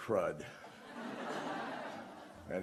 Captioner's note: laughter